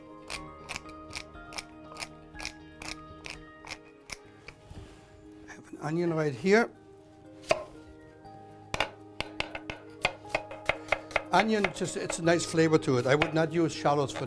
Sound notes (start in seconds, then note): 3.7 grinding; 10.0 chopping